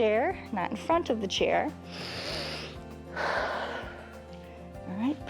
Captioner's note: inhales and exhales